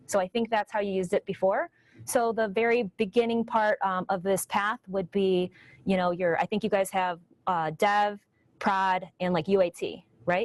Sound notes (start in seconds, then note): none